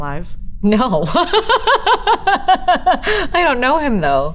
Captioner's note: Elizabeth laughs